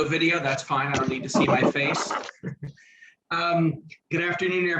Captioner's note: laughs